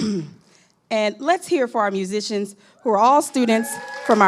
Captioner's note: clears throat